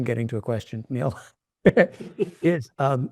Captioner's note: chuckling